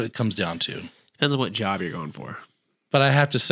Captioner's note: sarcasm